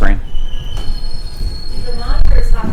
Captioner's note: metal screeching